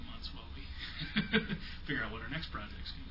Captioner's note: laughs